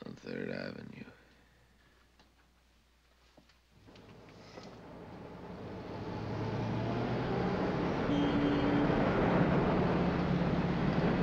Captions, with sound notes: on third Avenue (traffic humming) (Horns honking)